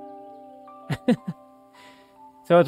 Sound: laughing

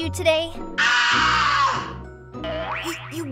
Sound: scream

